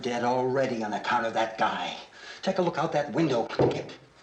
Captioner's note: footsteps